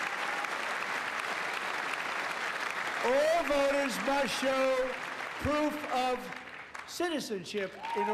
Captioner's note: applause